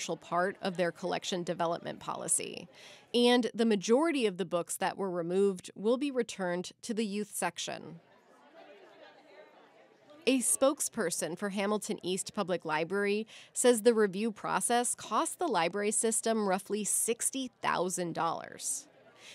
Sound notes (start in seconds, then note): 8.2 parents chattering